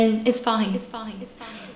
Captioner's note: echo